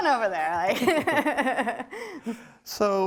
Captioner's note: laughs